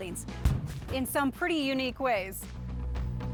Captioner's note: oven explosion